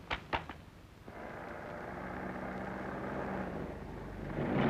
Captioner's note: engine rumbling